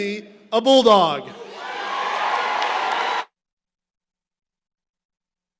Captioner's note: applause